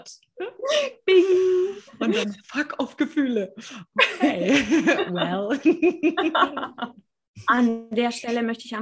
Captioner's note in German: lachen